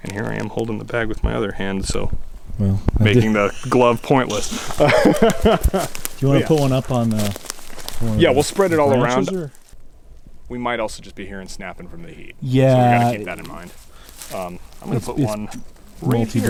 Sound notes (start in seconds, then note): 4.9 chuckling